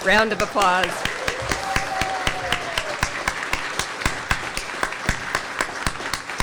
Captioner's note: audience cheers; audience applauds